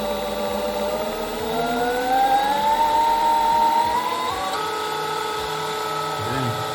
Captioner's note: motor spooling up